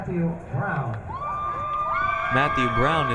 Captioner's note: crowd cheering